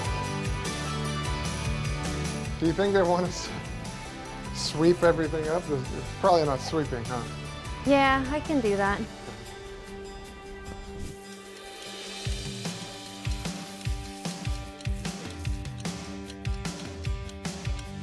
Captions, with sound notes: - Do you think they want us to sweep everything up? It's probably not sweeping, huh? - Yeah, I can do that. (water spraying) (clock ticking)